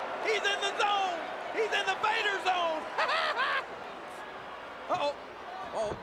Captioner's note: laughs